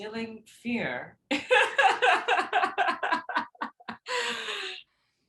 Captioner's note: laughs